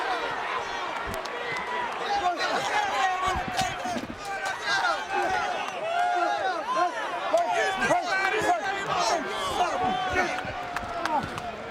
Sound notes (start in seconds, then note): 5.0 fists thudding; 5.0 wrestlers grunting